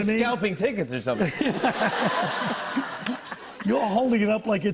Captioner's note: laughter